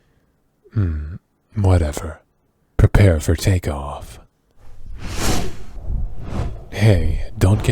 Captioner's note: wing noises